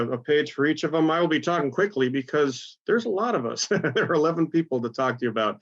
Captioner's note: laugh